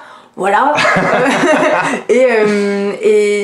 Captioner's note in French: rire